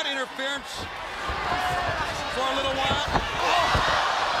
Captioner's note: crowd cheering